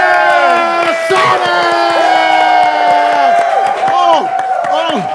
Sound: everyone cheering

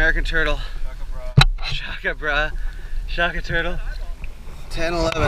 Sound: laughs

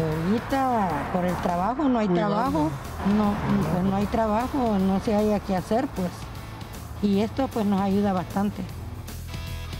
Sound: Spanish

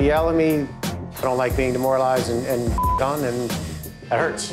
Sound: beep

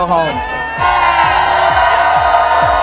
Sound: cheers

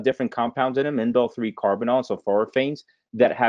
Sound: voice muffled

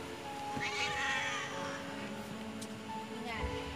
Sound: meows

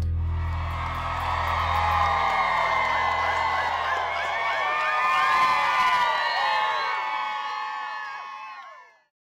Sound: audience cheering

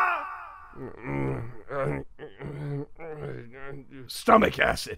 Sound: grumbling

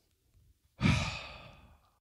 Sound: sighs

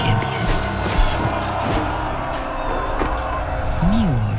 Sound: soldiers screaming, sables clinking

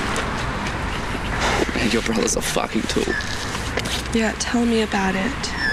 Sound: sighs

